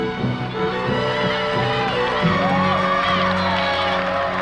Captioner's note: crowd cheers